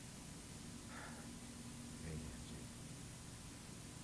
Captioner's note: sigh